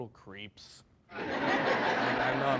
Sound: crowd laughing

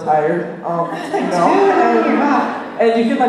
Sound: laughter

